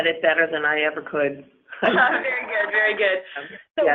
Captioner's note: laughter